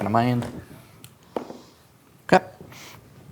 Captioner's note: dice rolling